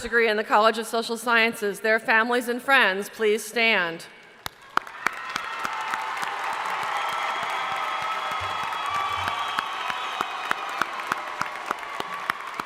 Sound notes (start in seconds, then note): 4.4 crowd applauding; 4.5 crowd cheering